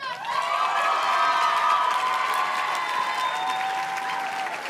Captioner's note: audience cheers and claps